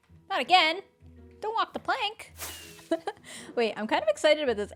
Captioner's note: laughs